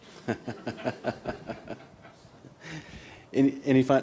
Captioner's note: laughter